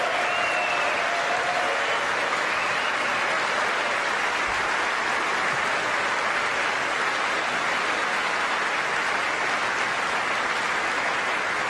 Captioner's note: applause